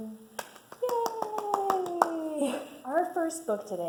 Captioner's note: clapping